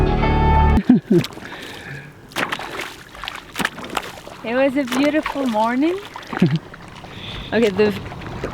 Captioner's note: footsteps in water